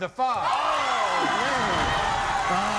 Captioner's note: audience erupts